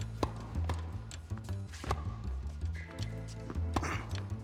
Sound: ball bouncing; rackets smacking

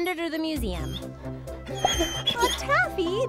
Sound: Taffy cries

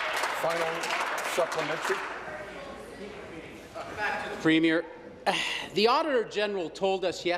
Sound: applause

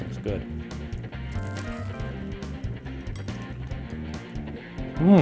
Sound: eating sounds

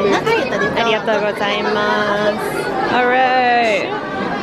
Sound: speaking foreign language

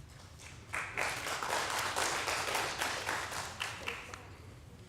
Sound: audience applauding

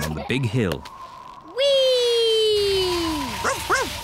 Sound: wind whistling; barks

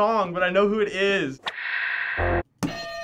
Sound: static; hitting bell

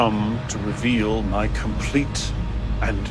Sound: none

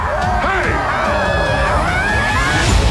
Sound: laughing; screaming

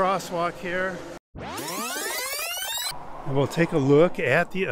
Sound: audio whooshing

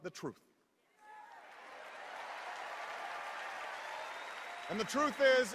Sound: cheers and applause

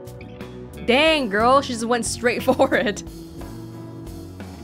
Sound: chuckles

